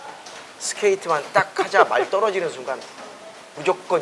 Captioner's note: laugh